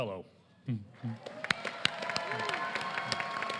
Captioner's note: applause